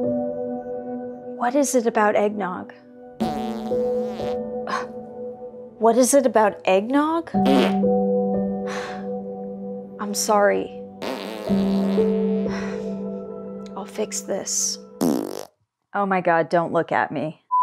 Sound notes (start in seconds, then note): 3.2 sounds of drawn-out flatulence; 5.6 scoffs; 7.4 one quick fart; 8.7 deep sigh